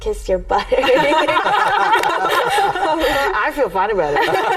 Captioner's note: everyone laughing